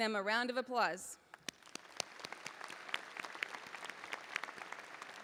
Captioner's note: audience applauding